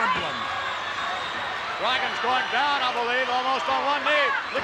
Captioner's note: applause